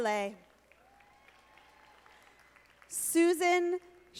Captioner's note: audience applauding